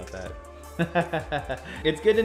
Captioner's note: speaker laughs